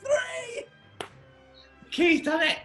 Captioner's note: claps